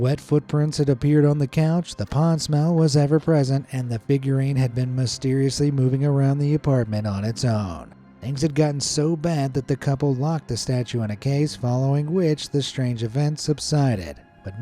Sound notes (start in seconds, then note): none